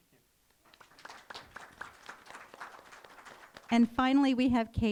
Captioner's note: applause